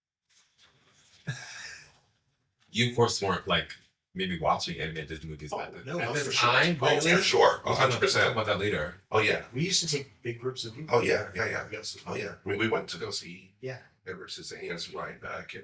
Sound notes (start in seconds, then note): 1.2 chuckles